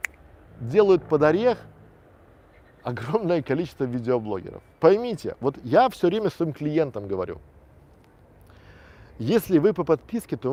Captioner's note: click